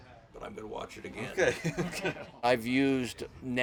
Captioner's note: laughs